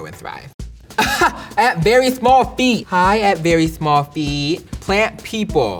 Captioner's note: laughs